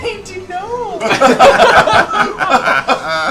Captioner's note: laughter